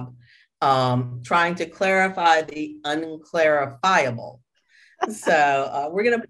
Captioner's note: chuckles